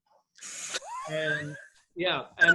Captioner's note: laughing